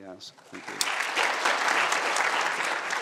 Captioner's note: applause